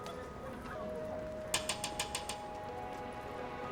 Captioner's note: tapping on glass